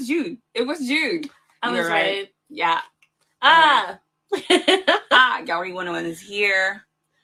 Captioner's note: laughs